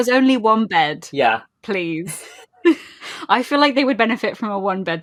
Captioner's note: laughing